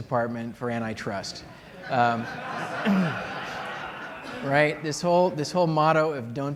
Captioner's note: laughter